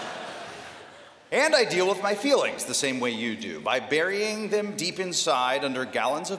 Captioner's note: laughter